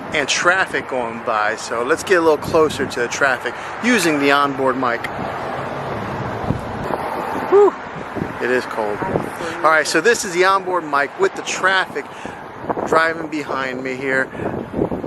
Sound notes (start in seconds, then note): 5.3 traffic whizzing